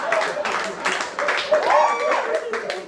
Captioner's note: huge laugh